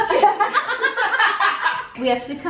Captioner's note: laughing